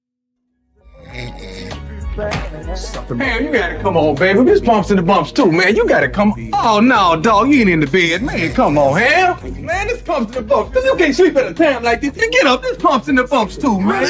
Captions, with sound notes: (man snoring) (rhythmic music) - Man, you gotta come on, baby. There's pumps in the bumps too. Man, you gotta come, Oh, no dog, you ain't in the bed. Man, come on here. Man, there's pumps in the bumps. You can't sleep in a town like this. You get up. There's pumps in the bumps too, man.